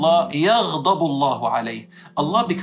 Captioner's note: Arabic